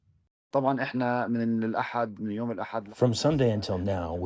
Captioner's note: through translator